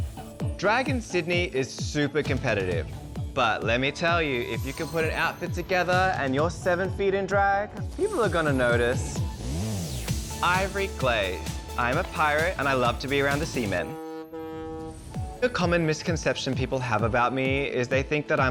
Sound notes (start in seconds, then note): 13.7 boat horn honks